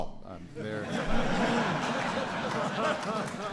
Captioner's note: laughter and applause